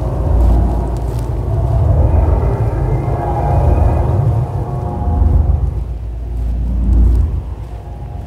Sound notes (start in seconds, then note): 0.0 power pulsing